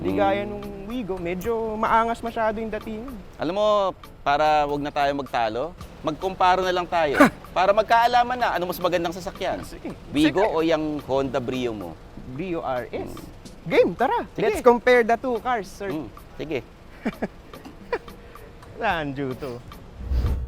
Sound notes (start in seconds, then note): 16.9 laughs